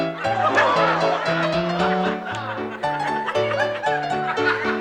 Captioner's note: audience Laughing